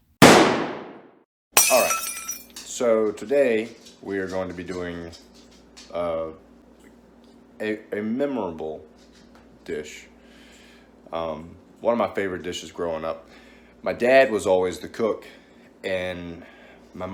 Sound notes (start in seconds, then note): 0.2 gunshot; 1.6 glass Breaking